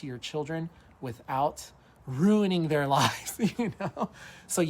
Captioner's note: laughs